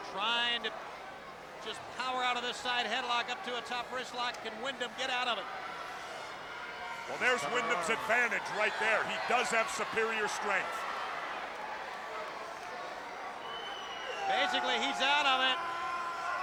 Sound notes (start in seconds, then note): 11.4 crowd cheering